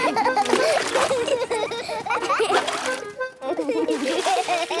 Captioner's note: excited laughter